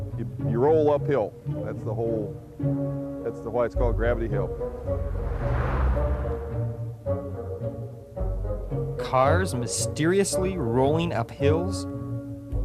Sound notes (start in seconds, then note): 4.4 traffic whooshes; 4.7 mysterious music